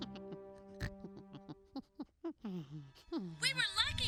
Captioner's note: snorting